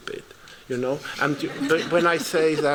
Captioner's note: laughter